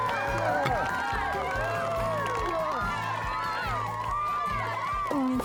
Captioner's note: cheering, applause